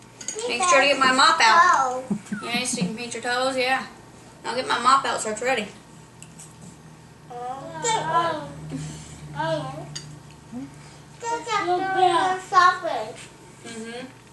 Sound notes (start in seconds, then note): 7.4 children chattering